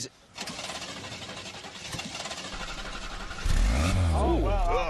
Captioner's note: engine struggles to turn over, starts